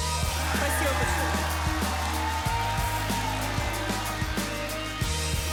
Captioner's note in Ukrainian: оплески